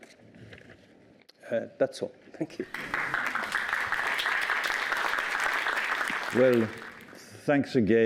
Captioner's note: applause